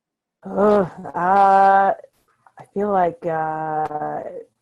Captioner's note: groans